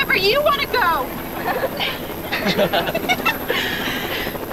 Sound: laughing

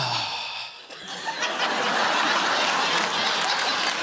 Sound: laughter

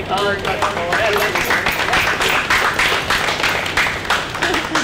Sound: students applauding

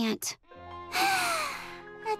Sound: sighing

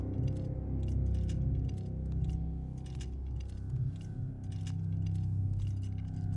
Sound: light dramatic music; rattling

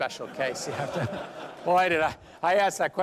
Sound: laughter

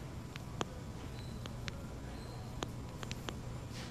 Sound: computer clicks

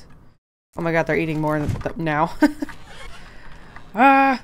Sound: laughs

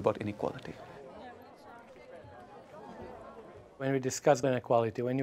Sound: distant murmurs

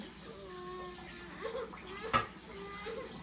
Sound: mournful sobbing

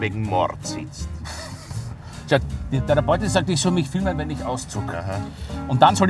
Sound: laughing

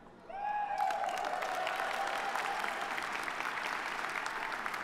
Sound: audience applauding

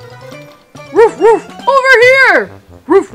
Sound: Marshall barking

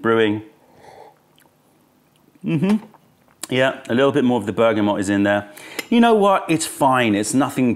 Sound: sips tea

